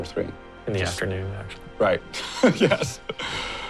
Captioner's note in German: Gelächter